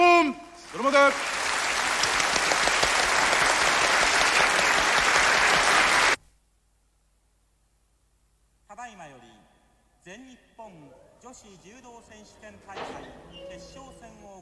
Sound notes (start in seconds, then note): 0.6 applause